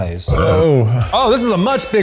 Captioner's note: burp